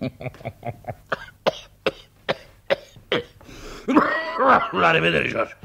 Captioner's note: laughs; coughs sporadically